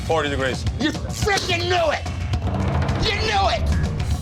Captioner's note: bowl clanging